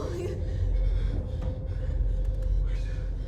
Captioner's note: heavy breathing